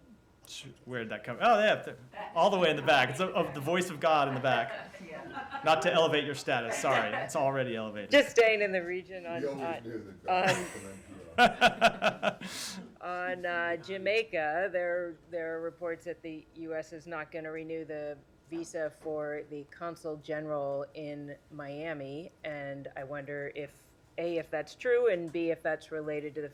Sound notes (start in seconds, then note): 4.1 laughter; 10.4 laughter